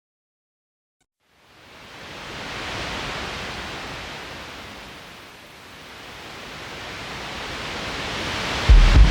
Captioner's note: distant ocean sounds fade in